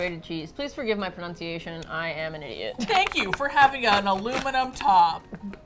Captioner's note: chuckles